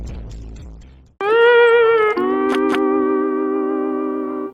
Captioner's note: Spongebob Fail sound effect